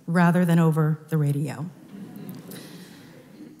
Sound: laughter

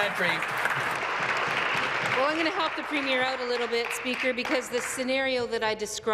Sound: applause

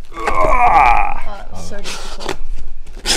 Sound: strained grunt

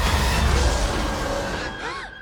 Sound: dramatic music continues; roars; both gasp

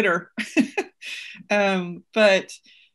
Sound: laughs

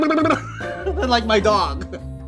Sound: laughing

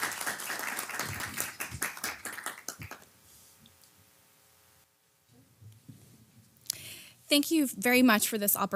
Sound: applause

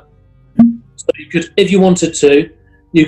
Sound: pop

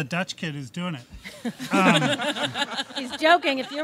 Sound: audience laughs

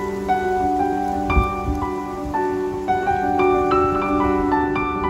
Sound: sunlight and a breeze through leaves

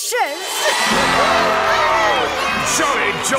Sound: cheering

